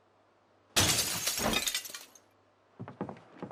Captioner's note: glass breaking